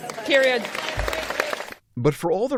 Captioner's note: applause